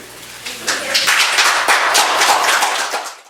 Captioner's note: applause